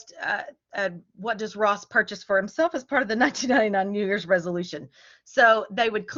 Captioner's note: laughter